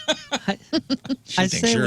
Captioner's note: laughing